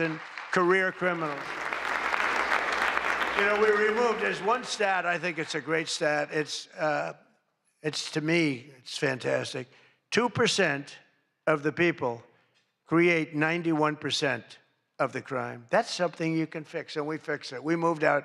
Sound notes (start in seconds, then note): 4.7 applause